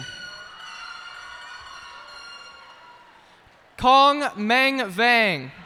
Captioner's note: cheers and applause